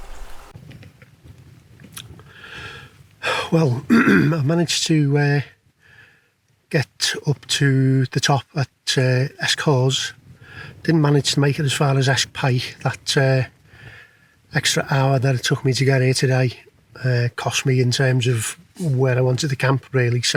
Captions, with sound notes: Well [ahem]...I've managed to get up to the top at Esk Hause. Didn't manage to make it as far as Esk Pike. That extra hour it took me to get here today cost me in terms of where I wanted to camp really, so...